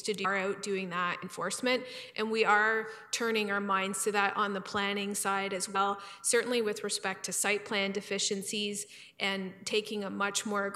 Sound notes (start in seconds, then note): none